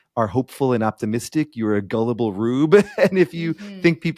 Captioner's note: chuckling